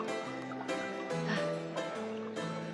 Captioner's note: sighs